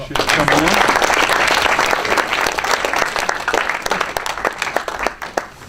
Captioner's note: applause